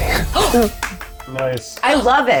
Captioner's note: applauding